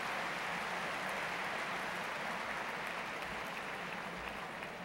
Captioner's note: applause